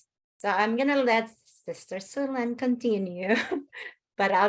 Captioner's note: laughs